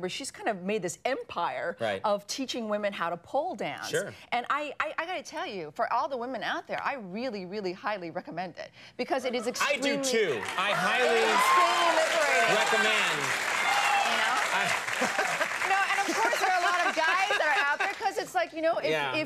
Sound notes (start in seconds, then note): 13.5 audience cheers